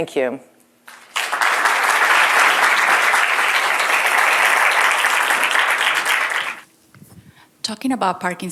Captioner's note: applause